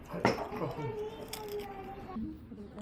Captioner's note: crunch